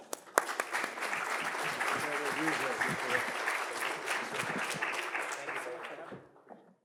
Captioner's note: attendees applauding